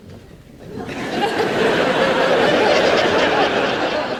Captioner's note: audience laughs